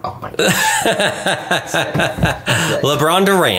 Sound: laughs

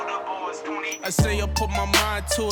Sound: зміна радіостанції

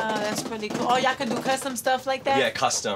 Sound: balloon clattering

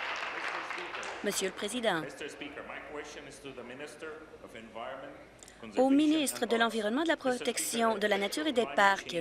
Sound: applause

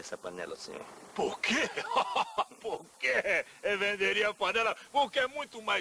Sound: chuckles

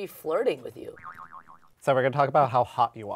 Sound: audio boings

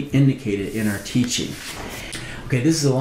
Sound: paper rustling

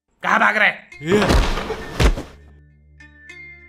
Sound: hitting sound

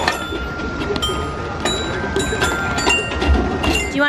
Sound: chiming

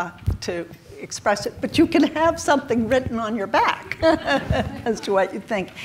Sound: chuckles

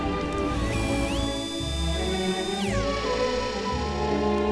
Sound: robotic whirring

